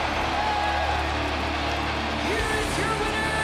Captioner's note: crowd cheers; intense rock music